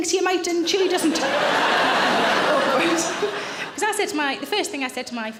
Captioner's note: audience laughing